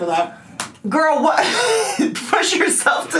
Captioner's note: laughs